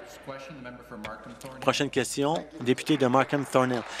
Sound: applause

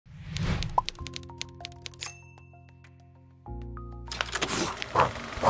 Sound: pensive music; typewriter clicking; pencil scribbling; projector whirring

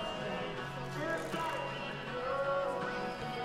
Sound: crowd talking

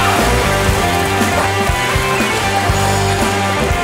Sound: laughs

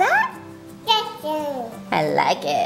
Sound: baby cooing

